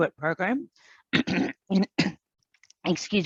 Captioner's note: clears throat